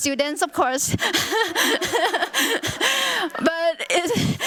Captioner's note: laughter